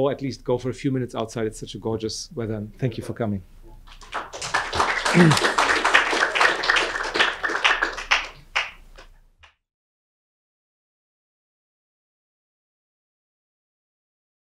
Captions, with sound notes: at least go for a few minutes outside. It's such a gorgeous weather. Thank you for coming. (audience applauds)